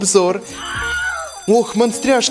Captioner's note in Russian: Звонок